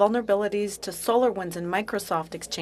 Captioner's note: speaking French